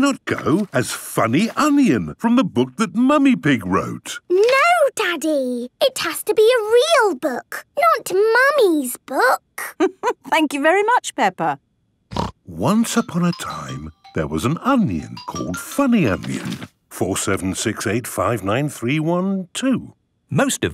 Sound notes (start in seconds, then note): 9.8 laughing; 12.1 snorting